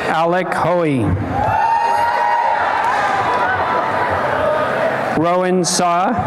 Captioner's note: applause and cheering